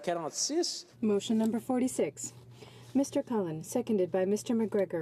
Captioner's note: speaking French